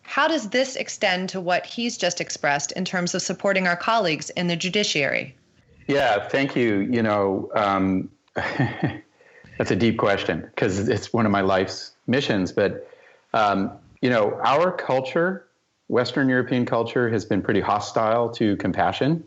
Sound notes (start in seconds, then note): 8.4 laughter